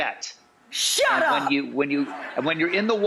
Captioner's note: audience laughs